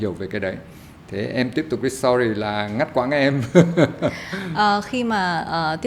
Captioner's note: laugh